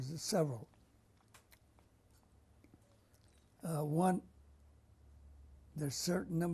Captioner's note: pauses for 3 seconds